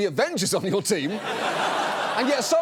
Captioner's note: audience laughs